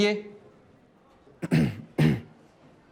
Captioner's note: Kashif clears throat